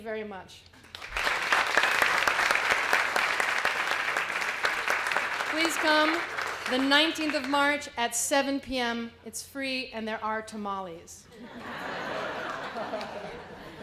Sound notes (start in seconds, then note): 0.8 applause; 11.3 laughter